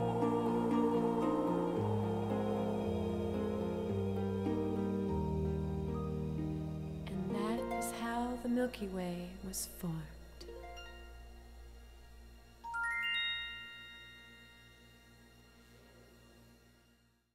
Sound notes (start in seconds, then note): 12.7 chimes twinkling; 15.6 song ends